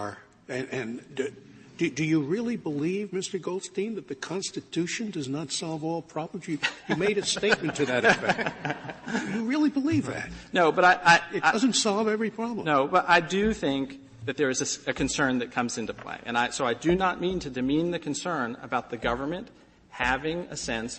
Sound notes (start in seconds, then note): 6.6 laughter